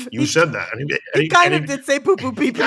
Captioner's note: laughter